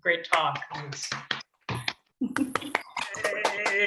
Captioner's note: clapping